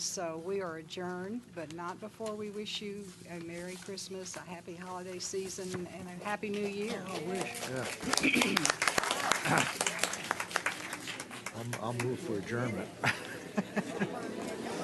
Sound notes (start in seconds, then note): 9.2 applause